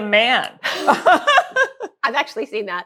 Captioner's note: laughs